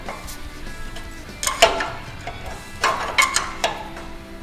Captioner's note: clicking of wrench